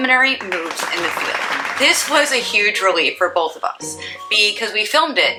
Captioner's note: applause